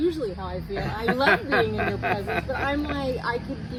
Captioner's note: laughs